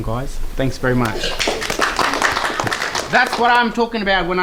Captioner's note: applause